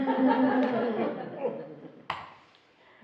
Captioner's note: laughing